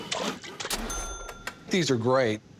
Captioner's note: sawing, splashing